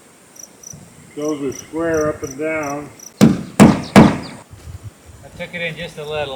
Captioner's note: hammers